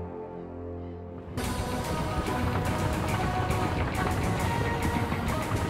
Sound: rumbling

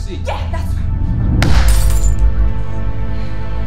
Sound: slam, glass shattering

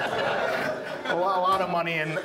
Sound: audience laughs

